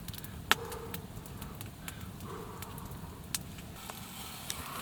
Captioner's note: condenses breath